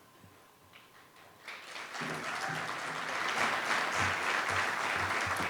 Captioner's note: audience applauding